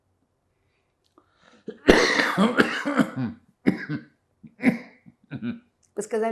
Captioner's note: coughing